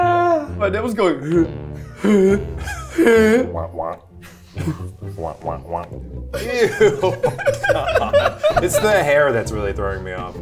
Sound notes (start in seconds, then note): 3.6 imitates pumping noise